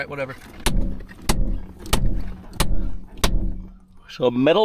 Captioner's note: ratchet hitting window